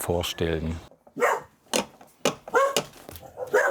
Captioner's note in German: Hundebellen